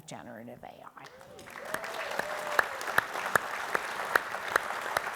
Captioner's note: audience applauding